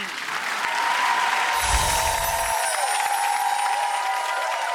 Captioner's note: applause and cheers